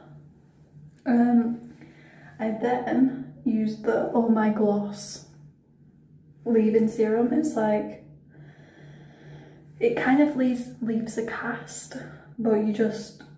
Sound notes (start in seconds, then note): none